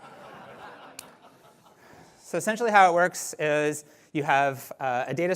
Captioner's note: laughter